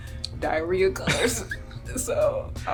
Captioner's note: laughs